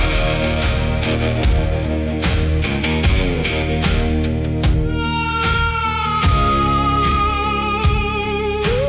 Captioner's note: crying